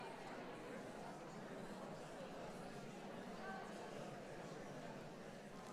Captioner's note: audience indistinctly chatting